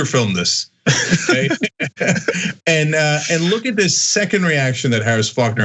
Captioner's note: laugh